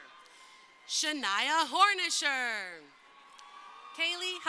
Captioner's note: crowd cheering